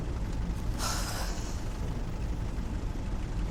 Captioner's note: sighs